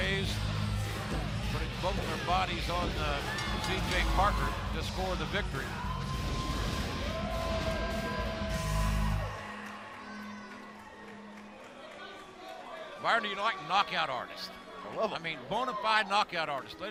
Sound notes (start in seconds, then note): 7.0 crowd chatter